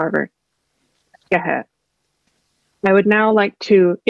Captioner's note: non-english speech